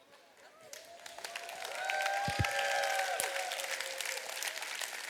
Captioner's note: audience applauds